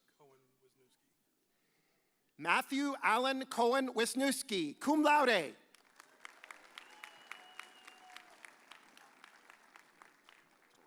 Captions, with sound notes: Matthew Allenn Cowan-Wisniewski, cum laude. (audience cheers)